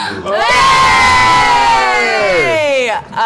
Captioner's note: cheering